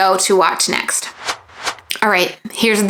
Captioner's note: transition swooshing